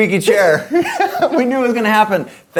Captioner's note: laughs